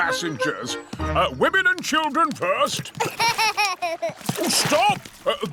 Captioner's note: laughs